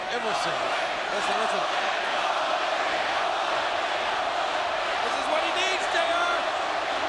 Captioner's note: applause